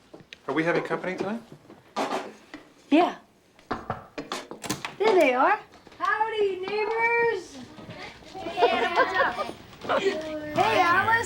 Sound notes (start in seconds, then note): 3.6 knocking on door